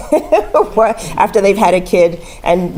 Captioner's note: laugh